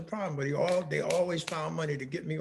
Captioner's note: hands clapping